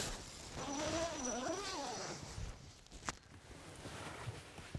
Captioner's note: tent zipping